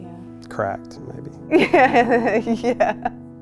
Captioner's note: laughs